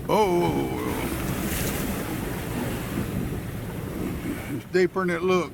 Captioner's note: water splashing